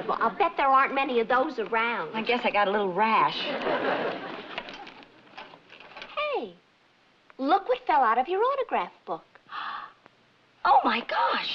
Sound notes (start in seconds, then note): 9.5 gasps